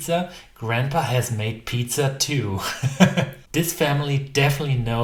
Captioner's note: chuckles